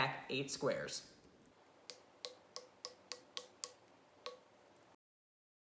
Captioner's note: fast Forwarded Sounds